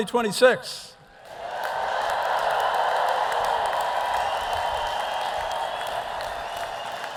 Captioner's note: audience applauding; audience cheering